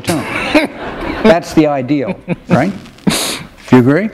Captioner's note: laughter